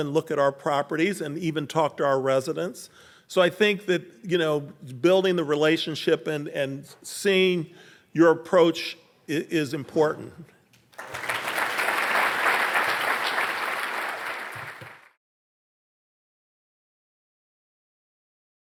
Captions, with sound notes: and look at our properties, and even talk to our residents. So, I think that building the relationship and seeing your approach is important. (audience clapping)